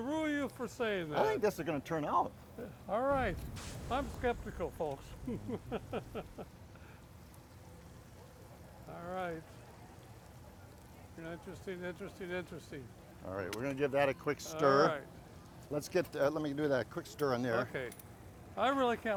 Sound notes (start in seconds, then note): 5.1 laughs